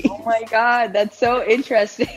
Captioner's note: laughing